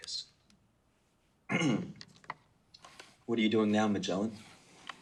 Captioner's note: clears throat